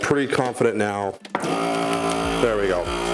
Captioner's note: machine buzzes